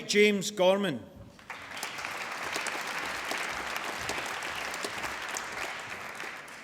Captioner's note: applause